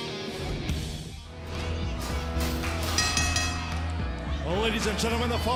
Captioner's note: bell ringing